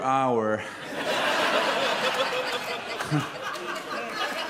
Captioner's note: audience laughs loudly